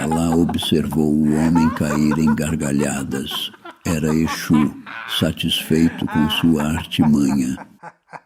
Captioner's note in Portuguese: risadas